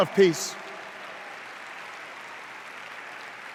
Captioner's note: cheers